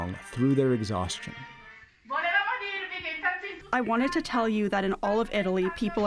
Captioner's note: through translator